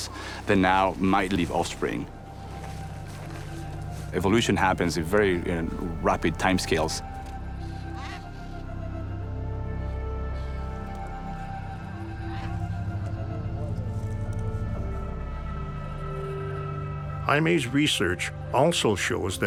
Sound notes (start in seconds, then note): 7.0 serene music; 7.4 birds squawking